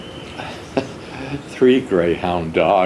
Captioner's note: lightly chuckles